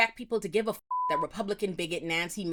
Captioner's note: beep